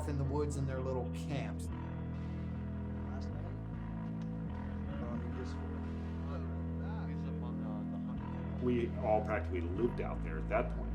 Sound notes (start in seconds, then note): 1.7 intense music; 4.1 muffled chatter